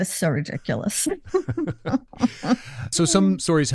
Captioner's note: laughter